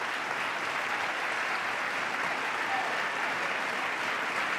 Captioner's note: applause